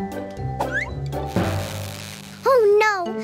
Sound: electronic buzzing

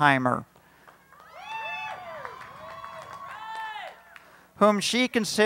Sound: cheering, applause

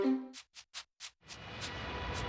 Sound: none

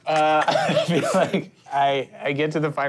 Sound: laughing

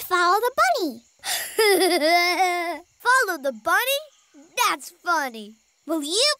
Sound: laughing

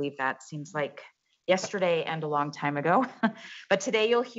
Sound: chuckles

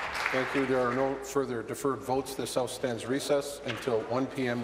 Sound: applause

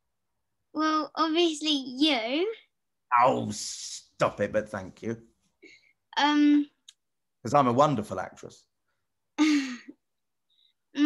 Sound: laughs

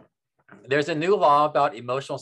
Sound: none

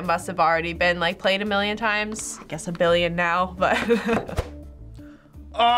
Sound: laughs

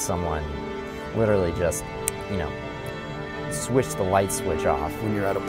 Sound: snaps fingers

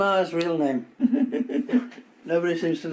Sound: a woman laughs

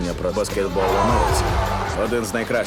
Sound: all cheer

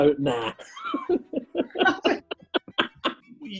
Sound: laughter

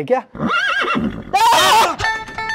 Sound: shouting

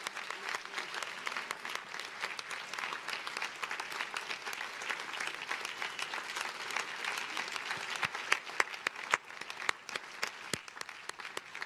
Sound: cheers and applause

